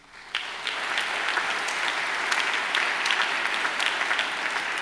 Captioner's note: audience applauds